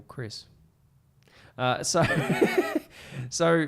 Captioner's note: laughs